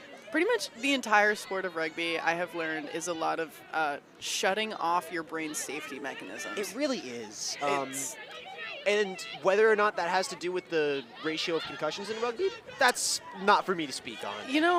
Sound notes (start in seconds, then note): none